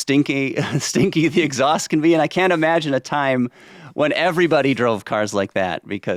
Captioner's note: chuckles